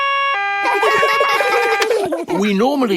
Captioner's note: siren stops; siren wailing; kids laugh